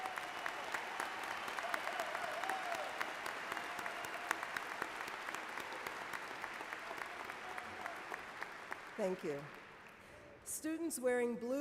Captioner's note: cheers and Applause